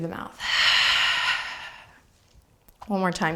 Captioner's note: exhaling breath